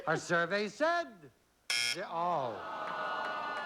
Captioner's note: buzzer